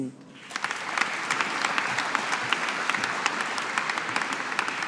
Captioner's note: audience applauding